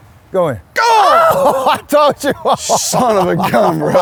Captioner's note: laughs